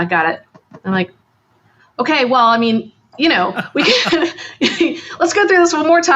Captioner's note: laughs